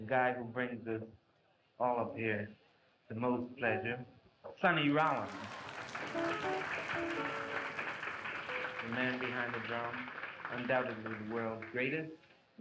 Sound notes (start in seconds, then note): 4.9 applause